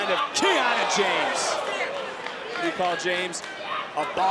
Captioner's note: audience gasps